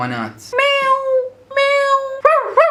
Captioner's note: makes animals sounds